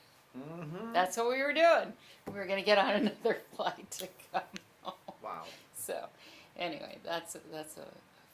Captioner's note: laughs